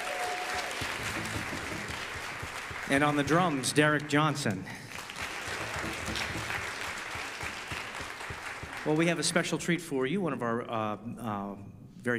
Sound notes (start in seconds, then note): 0.2 audience applause; 5.3 audeince applause